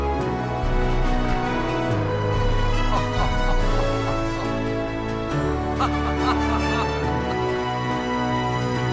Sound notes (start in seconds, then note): 1.8 Heavenly Lewis laughing; 5.5 Clark laughing